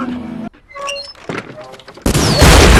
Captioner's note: door creaks; explostion; blast